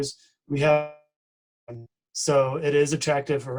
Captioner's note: distorted speaking